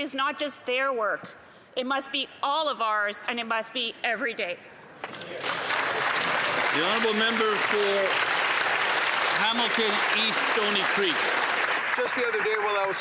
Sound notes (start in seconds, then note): 9.6 applause